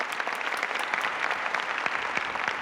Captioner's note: applauding continues